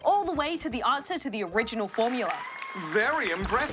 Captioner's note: audience: oooh